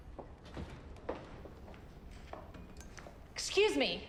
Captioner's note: shoes clacking